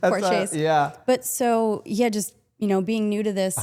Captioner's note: Stephanie laughs